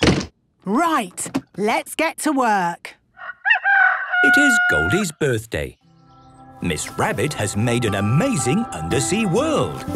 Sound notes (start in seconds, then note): 3.2 rooster crowing